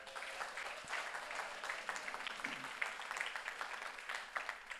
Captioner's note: audience cheers and applauds